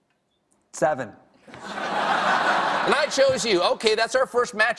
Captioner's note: laughter